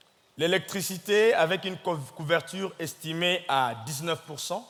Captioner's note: speaking in French